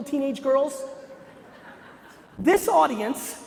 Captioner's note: laughter